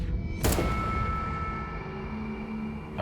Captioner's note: gunshot